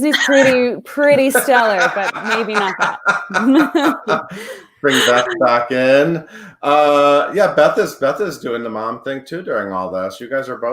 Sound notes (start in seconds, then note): 3.3 laughs